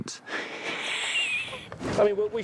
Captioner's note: chuckles